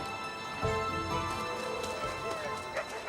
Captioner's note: wolves barking